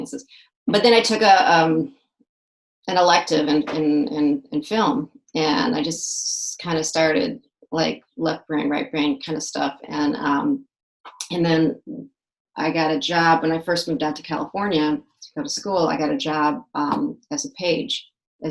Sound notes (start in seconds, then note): none